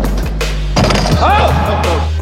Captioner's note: dunk sound